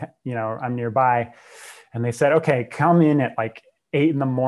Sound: breath

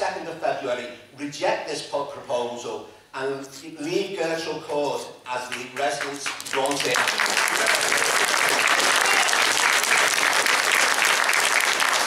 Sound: applause

